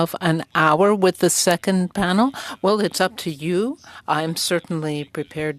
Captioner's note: speaking french